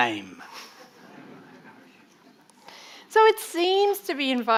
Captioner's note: audience laughing